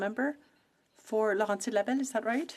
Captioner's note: speaking French